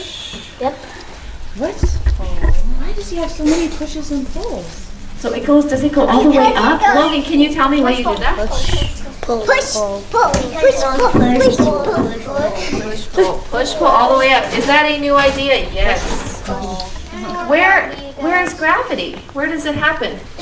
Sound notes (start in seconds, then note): 16.1 chatter